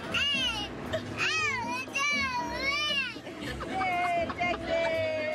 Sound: baby gibberish

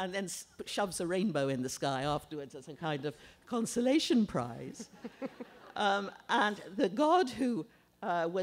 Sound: laughter

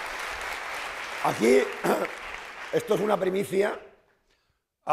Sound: speaking spanish

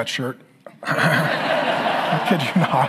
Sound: congregation laughing

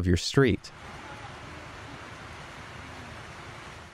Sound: rain falling

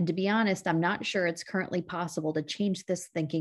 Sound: none

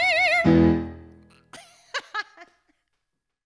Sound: laughs

